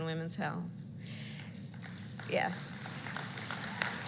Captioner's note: applause